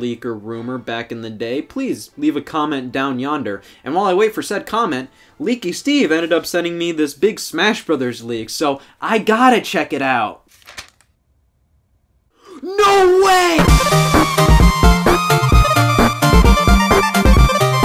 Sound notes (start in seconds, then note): 10.4 paper crumpling; 13.2 upbeat music